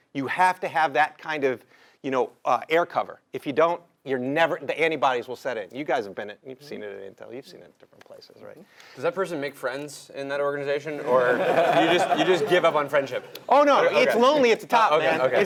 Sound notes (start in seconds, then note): 11.0 laugh